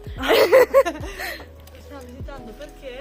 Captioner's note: laughter